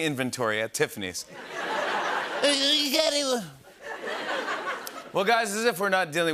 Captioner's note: laughter